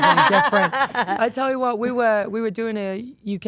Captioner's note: group laughs